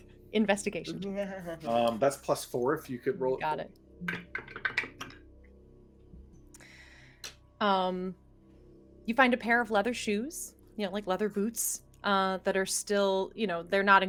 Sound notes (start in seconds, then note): none